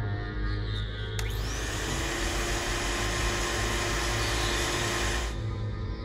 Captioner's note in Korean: 진공청소기 소리